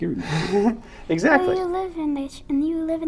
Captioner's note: laughs